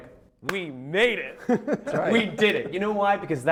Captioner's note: laughter